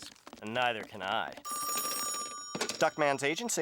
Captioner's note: ringing